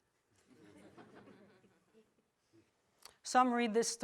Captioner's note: audience laughs